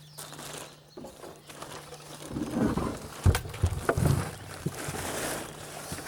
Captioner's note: plastic tarp crunching